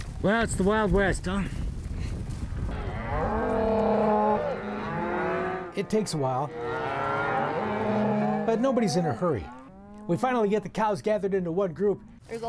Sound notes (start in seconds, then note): 2.7 cattle mooing